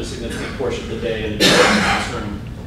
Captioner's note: cough